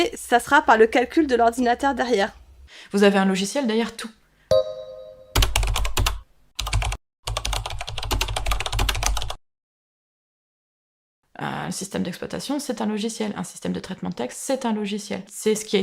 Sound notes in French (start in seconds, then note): 7.2 bruit de clavier